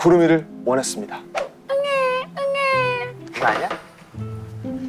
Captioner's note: crying